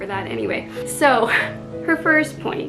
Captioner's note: laughs